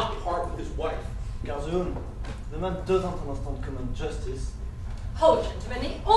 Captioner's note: french